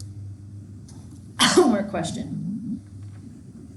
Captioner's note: coughs